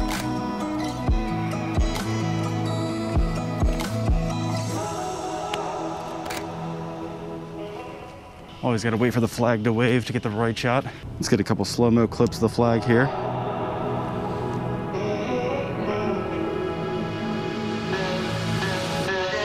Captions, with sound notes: (shutter closes) (relaxed hip hop music continues) (shutter closes) Always gotta wait for the flag to wave, to get the right shot. Let's get a couple slo-mo clips of the flag, here. (relaxed hip hop music continues)